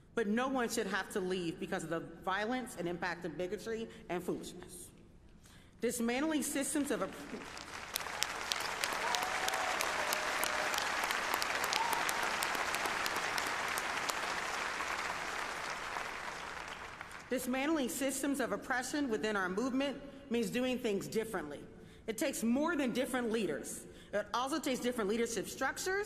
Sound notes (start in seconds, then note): 11.5 applause